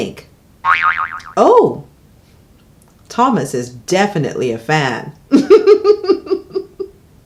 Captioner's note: laughs